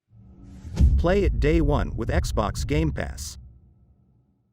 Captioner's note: dramatic sound